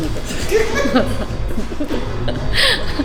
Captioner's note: laughs